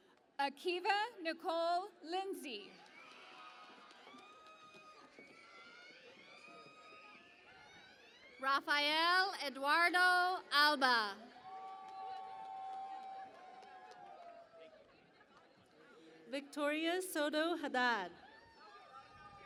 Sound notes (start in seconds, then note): 2.7 cheering and Applause; 11.2 cheering and Applause